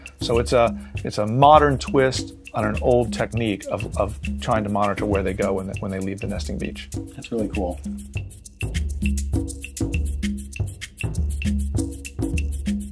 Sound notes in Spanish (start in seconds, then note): 7.5 Voz en off